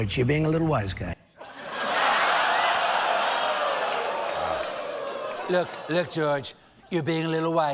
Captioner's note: audience reacts